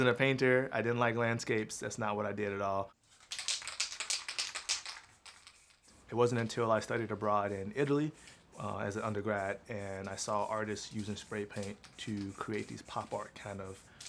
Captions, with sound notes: I wasn't a painter. I didn't like landscapes. That's not what I did at all. (paint can rattling) It wasn't until I studied abroad in Italy as an undergrad and I saw artists using spray paint